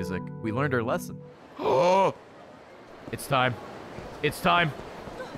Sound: gasps

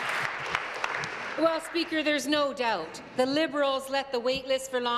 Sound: applause

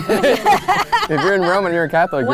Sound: laughing

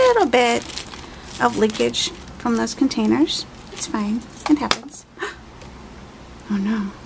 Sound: gasp

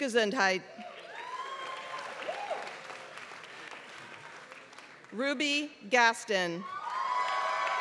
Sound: applause; applause

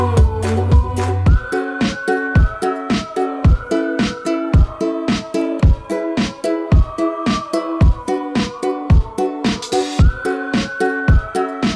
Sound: whistling

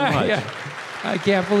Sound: audience applause

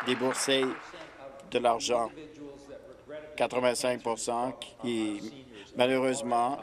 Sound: applause

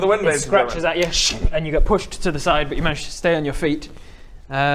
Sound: sssrrch

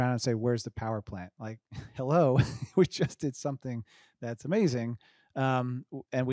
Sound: chuckles

